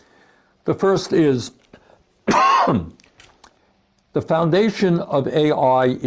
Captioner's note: coughs